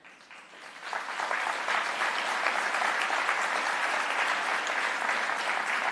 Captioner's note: applause